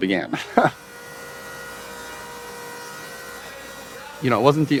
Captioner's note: laughs; machines buzzing